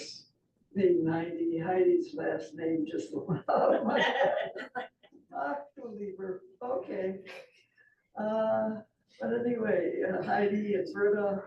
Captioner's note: laughter